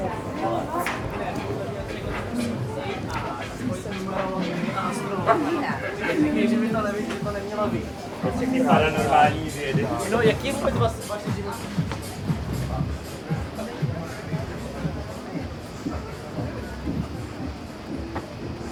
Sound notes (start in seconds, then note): 2.4 people Speaking